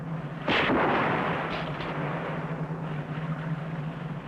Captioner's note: rifles fire